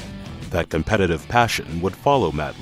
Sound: voiceover

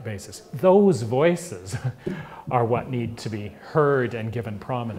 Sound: laugh

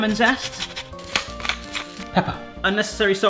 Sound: grinder crunching

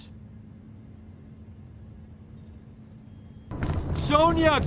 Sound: awkward silence

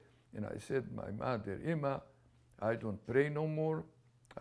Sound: non-english

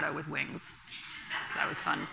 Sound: laughter from the audience

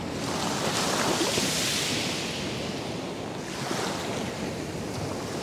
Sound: the sound of the Ocean’s waves splashing against the beach

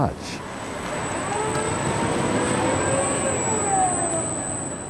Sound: robots whirring

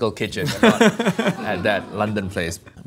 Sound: laughing

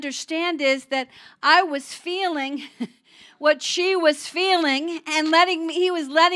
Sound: chuckling

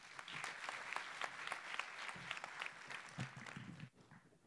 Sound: applause

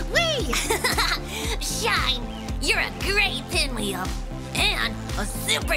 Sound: laughs

